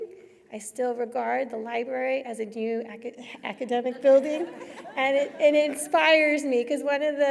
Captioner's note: laughter